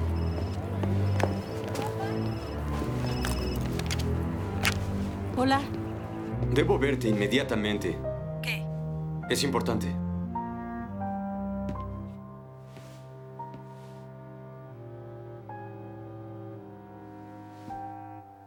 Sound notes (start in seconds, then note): 0.0 phone ringing